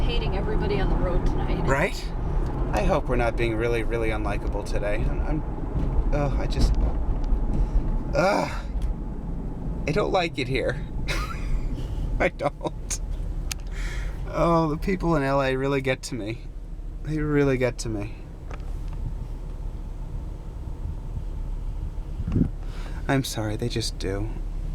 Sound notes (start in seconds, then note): 8.7 choking up; 11.1 sobbing laugh